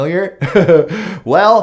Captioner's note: chuckles